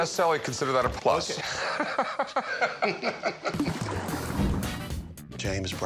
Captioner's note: laughs